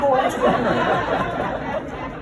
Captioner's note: laughter